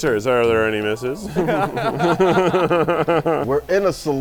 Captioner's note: group laughs